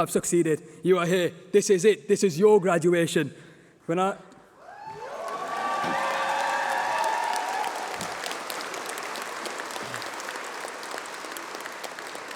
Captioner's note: applause